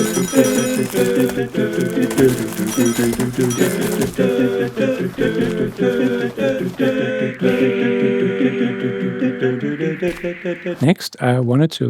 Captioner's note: humming